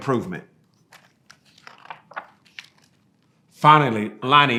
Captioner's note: pages rustling